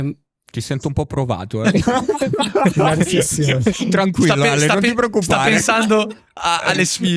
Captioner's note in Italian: laughter